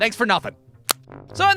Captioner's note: click!